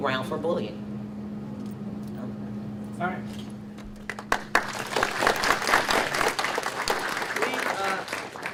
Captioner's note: audience applauds